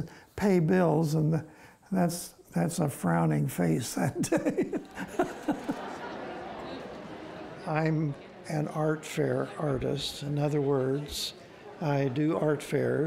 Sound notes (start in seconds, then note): 4.1 laughing